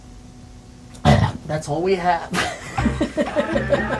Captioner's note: burps